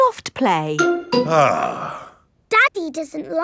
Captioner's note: sighs